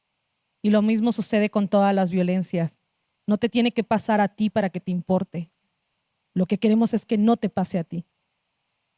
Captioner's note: speaking Zapotec language